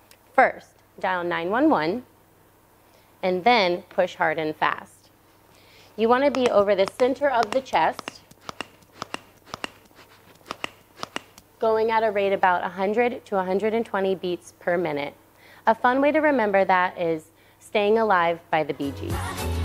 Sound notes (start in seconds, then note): 7.3 compression clicking